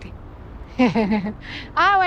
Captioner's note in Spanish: Risas